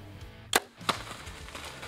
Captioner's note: arrow shot; deer scurrying